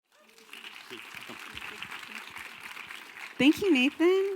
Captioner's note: audience applause